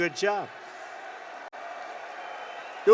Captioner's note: applause